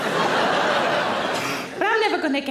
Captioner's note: audience laughing